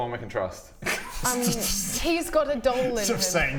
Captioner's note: reckless giggles